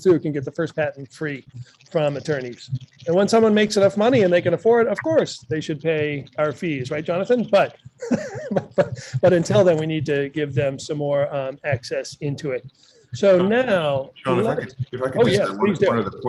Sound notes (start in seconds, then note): 8.0 laughs